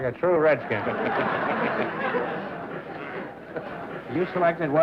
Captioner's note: laughter